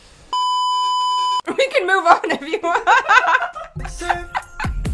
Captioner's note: laughs